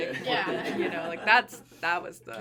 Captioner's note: everyone laughing